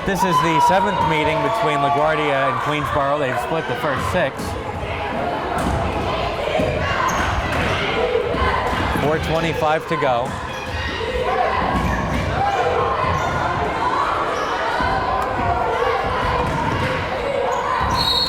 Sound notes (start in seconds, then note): 6.2 crowd chanting defense